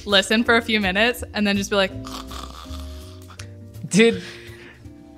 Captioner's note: snores